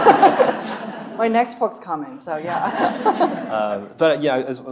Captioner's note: laughing; audience laughing; chuckling